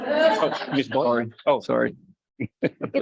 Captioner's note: light laughter